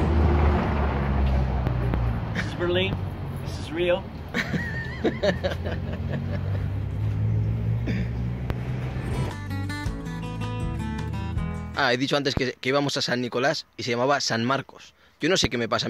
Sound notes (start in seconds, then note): 4.3 laughs